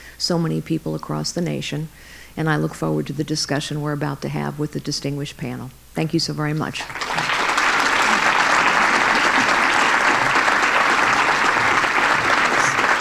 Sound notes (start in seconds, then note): 6.7 applause